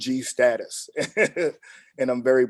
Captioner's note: chuckles